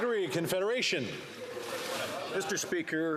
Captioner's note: some Applause